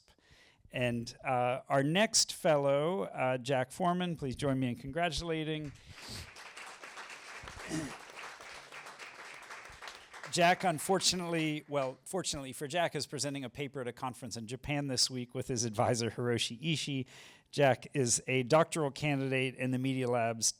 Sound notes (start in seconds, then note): 5.6 applause